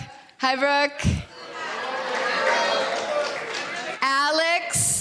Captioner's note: people chattering